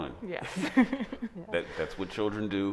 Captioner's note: laughing